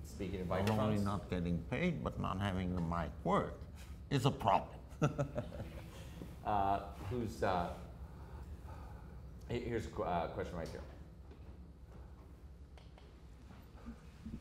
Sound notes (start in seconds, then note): 4.9 laughs